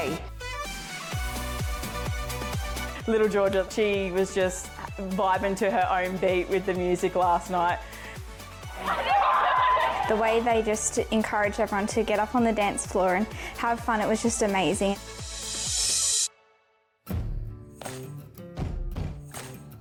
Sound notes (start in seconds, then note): 0.3 bright music; 8.8 everyone laughing; 17.1 light music